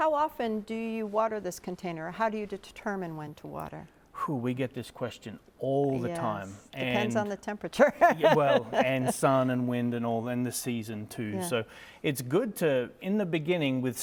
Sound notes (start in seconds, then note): 7.8 chuckles